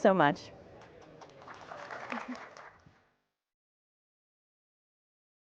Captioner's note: crowd applauds